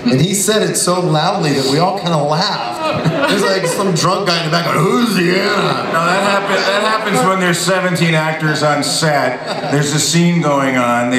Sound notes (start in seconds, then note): 4.6 in a gruffy voice